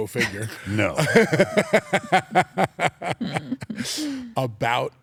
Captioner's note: laugh